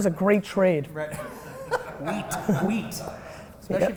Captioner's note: laughs